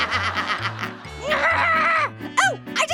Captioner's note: Orange laughs; Little Apple grunts